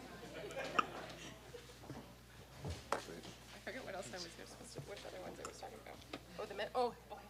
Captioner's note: background chatter